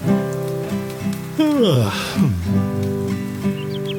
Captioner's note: yawn